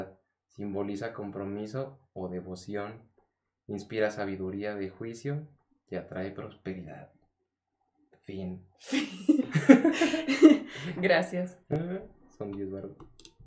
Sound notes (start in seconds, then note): 8.9 laughter